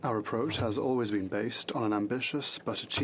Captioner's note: speaking French